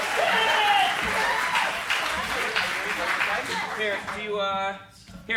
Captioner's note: applauds